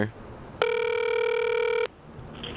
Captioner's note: ringback tone